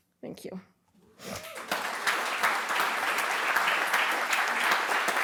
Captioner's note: applause